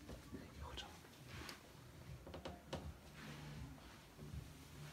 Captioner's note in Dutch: deur kraakt